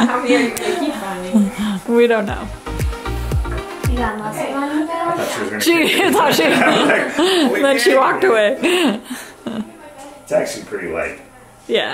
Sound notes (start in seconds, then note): 5.6 they laugh